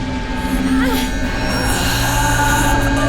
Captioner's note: grunt